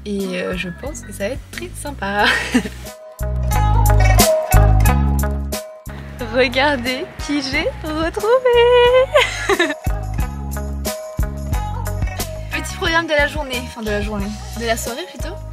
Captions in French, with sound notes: Et je pense que ça va être très sympa (rire) Regardez qui j'ai retrouvé (exclamation) Petit programme de la journée, enfin de la journée, de la soirée plutôt